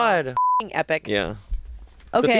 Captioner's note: beep